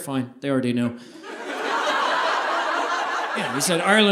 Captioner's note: audience laughing